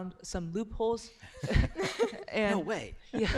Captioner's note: laughter